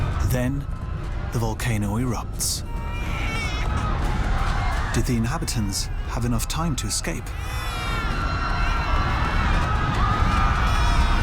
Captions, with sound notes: then, the volcano erupts. -[shouting] -[baby crying] Did the inhabitants have enough time to escape?